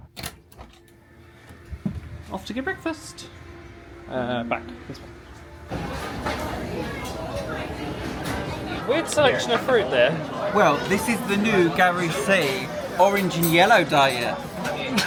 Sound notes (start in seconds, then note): 0.6 door clicking; 6.4 crowd murmuring